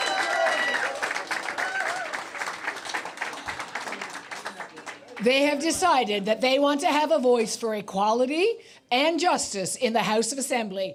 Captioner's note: cheers and Applause